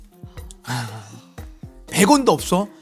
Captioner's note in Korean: 어려운 주제에 일동 탄식